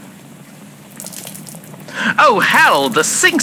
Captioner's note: water overflowing from the sink fx